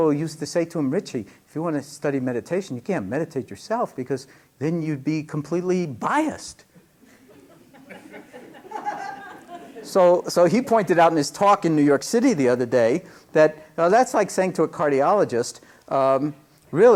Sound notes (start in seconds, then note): 7.0 laughter